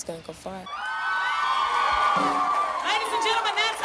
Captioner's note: crowd cheers